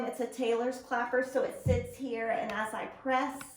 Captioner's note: none